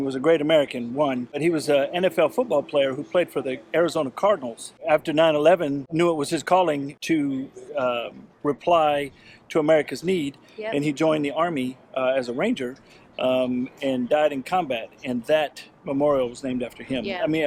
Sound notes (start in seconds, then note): none